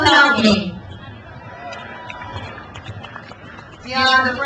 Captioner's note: crowd cheers